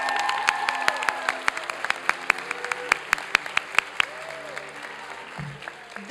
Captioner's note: applause and cheering